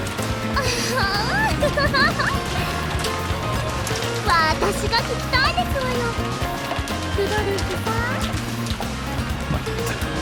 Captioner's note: giggle